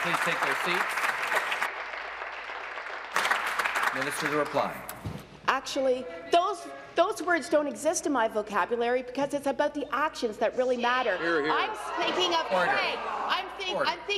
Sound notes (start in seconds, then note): 0.0 applause